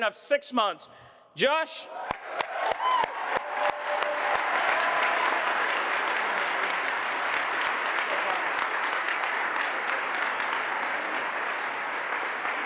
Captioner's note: applause